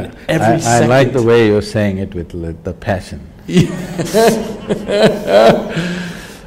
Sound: laughter

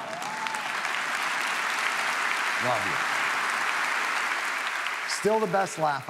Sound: audience coos; audience applauds

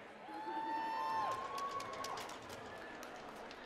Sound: cheering

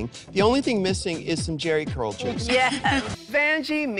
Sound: laughs

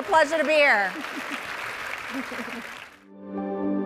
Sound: audience applauding; bright music

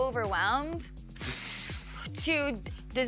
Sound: sigh

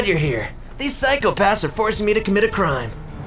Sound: car voice

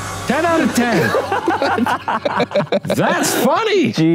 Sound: laughs

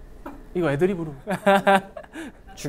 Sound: laughing

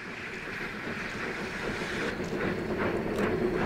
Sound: Rapid chugging from OY; Slow chugs from 487 & 484

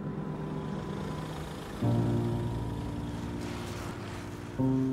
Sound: car engine

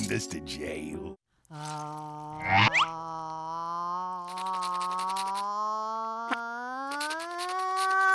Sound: ah-ing

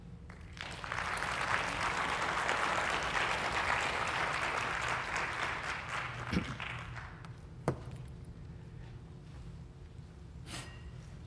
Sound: applause

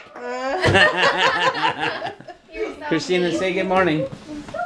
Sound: laughing

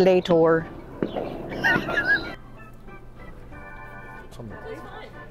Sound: laughing

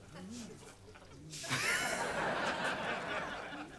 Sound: chuckles

